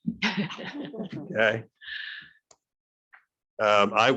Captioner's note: laughing